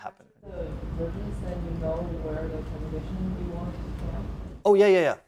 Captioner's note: audience member murmurs